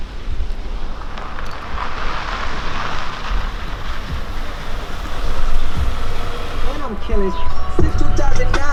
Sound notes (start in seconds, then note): 0.0 tires crunching